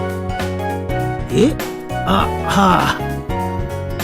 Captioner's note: sighed